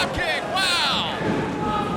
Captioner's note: crowd cheering